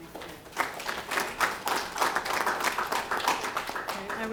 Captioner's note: applause